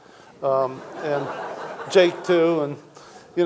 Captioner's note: audience laughing